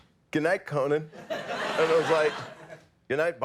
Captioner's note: audience laughs